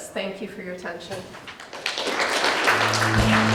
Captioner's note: audience applause